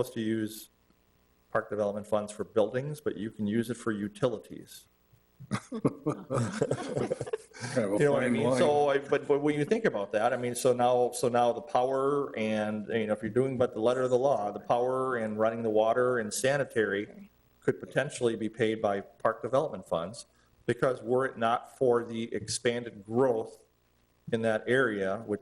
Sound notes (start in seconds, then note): 5.4 all laughing